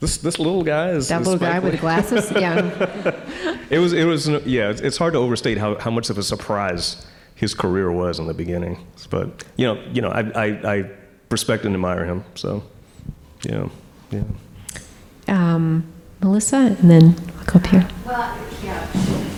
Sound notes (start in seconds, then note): 1.2 audience chuckling